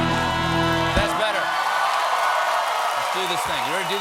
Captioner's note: cheers and applause